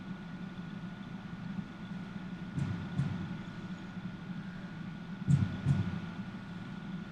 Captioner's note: heartbeats